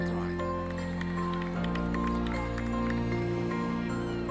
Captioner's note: applause